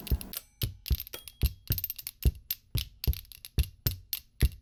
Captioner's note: spoons clacking